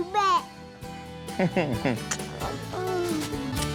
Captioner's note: smooch